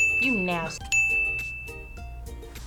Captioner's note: bell rings